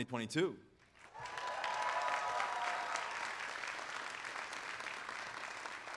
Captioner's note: audience applauding and cheering